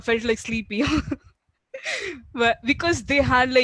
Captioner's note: laughing